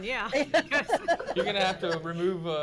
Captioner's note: board laughs